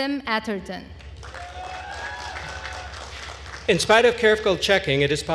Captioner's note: attendees cheering and applauding